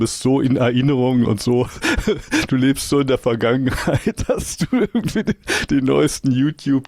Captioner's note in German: gelächter